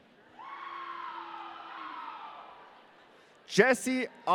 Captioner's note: audience cheering